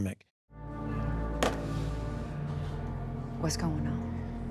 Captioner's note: dramatic music; phone thuds